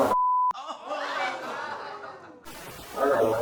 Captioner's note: audience exclaims